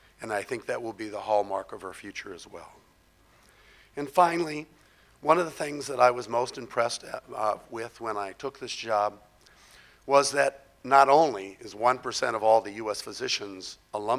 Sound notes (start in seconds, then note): none